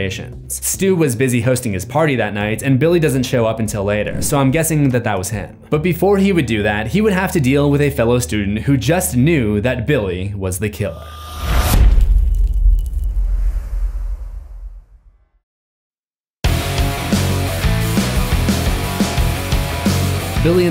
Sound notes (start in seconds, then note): 11.5 impact; 16.4 rock music